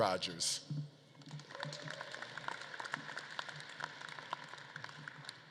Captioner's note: audience claps and cheers